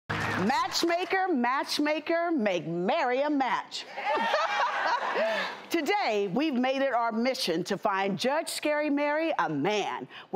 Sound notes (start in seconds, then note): 4.0 laughing; 4.2 cheering